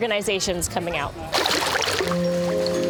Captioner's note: water splashes